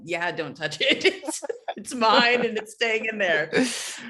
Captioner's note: laughs